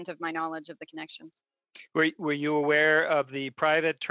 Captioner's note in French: voix de l'interprète